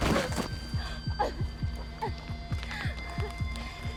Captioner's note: gasping